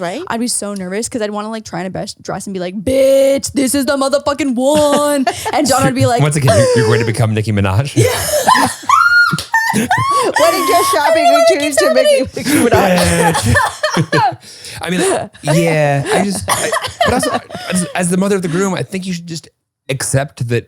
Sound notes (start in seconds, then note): 6.4 gasps; 7.9 all laughing; 14.3 laughing